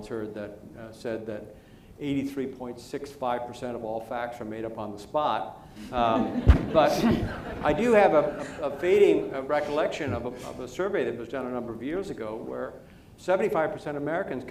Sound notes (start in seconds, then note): 5.9 laughter